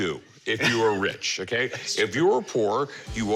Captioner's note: chuckles